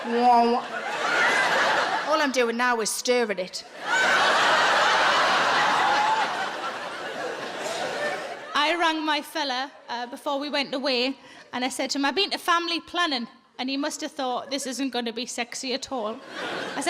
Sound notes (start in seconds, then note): 3.6 audience laughs